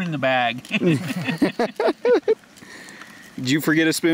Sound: laughing

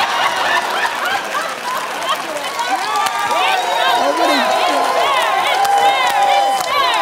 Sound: boisterous laughter

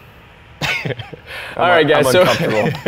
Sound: chuckles

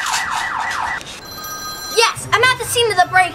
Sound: phone ringing

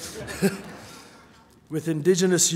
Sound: laughing

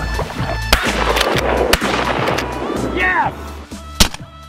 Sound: gun firing; gun firing

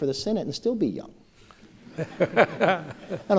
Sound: laughter

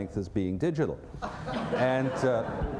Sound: laughter

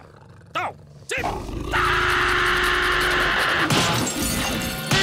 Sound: screaming

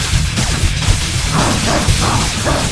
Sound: grunting

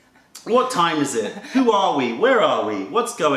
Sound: laughter

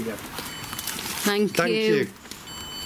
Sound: sensor beeps again

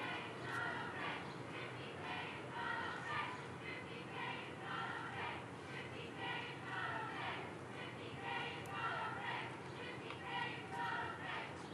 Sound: chanting

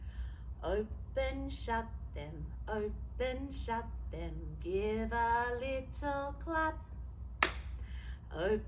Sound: clap

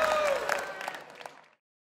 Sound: applause

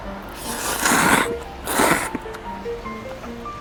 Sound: slurping noodles X 15

